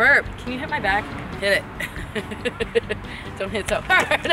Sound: laughs

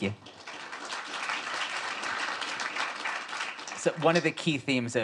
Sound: audience applauds

